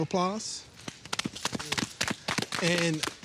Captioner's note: all applauding